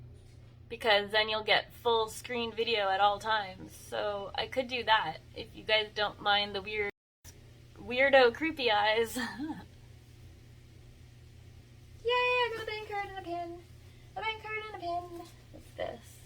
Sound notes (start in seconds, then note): 9.1 giggles